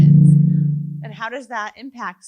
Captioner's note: loud chime